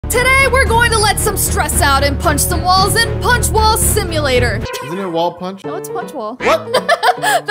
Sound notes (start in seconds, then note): 0.0 intense music; 4.7 silly sound plays; 6.4 laughs